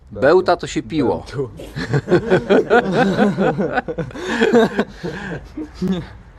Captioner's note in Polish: śmiechy